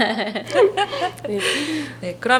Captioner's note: laughs